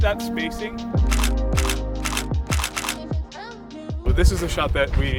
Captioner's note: shutter clicks